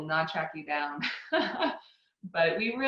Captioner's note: laughs